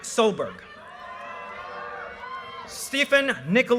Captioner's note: audience cheers and applause